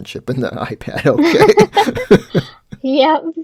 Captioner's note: both laughing